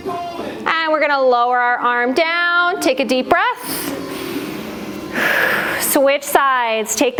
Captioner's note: breath